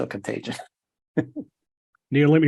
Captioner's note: laugh